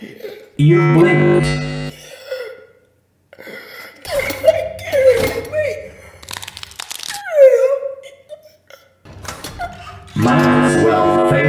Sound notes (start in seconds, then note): 0.0 choking; 0.6 jumpscare sound followed by a firm neck grab; 5.6 strained; 5.9 painful inhale; 10.3 loud as fuck crunch; 10.3 more choking